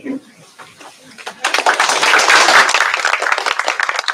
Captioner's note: applause